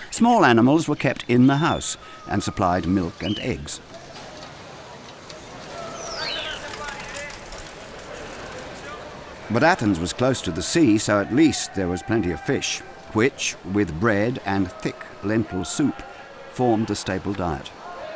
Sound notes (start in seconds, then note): 4.9 birds chirping; 5.6 people shouting